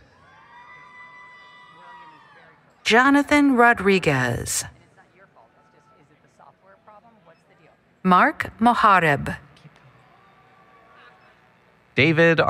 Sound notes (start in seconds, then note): 0.2 applause, Cheering; 5.2 background Conversation